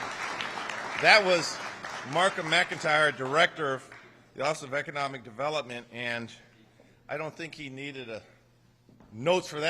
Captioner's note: applause